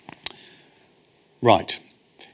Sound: smacks lips

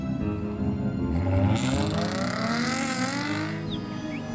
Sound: the car revs loudly as it pulls away

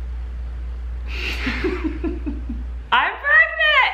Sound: laughing

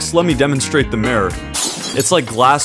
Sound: mirror breaks

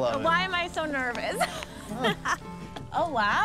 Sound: laughs

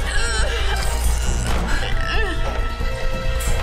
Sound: groaning

